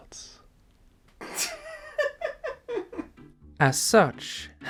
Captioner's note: laughs